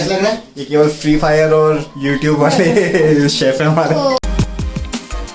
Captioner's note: laughs